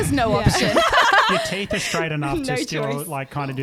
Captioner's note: laughing together